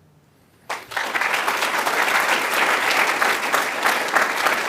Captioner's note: applause